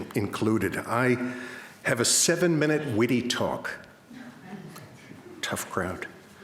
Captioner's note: crowd laughs